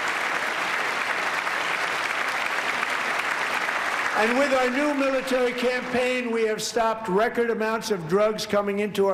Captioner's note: applause